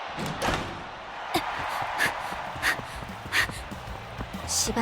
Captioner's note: huff